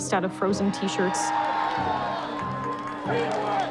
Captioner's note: cheer triumphantly